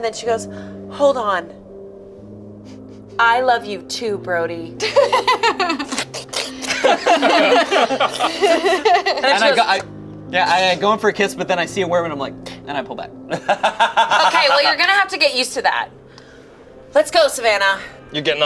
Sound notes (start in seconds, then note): 4.8 laughs; 6.3 worms squelch; 7.4 group laughs; 13.3 laughs